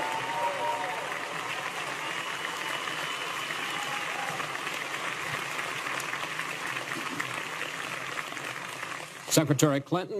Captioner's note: applause